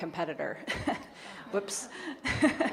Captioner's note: chuckles